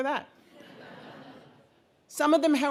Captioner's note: audience laughing